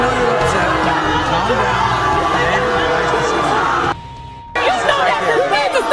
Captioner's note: audience drowning out conversation; audience booing